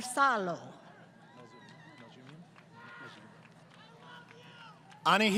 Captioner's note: crowd Cheering